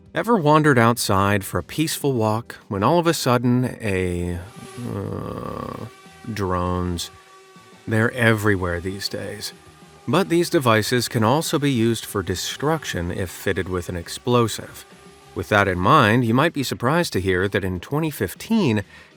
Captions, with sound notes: Ever wandered outside for a peaceful walk, when, all of a sudden a [buzzing sound] Ugh, drones. They’re everywhere these days! But these devices can also be used for destruction if fitted with an explosive. With that in mind, you might be surprised to hear that in 2015,